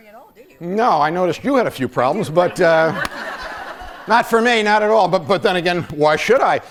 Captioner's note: laughter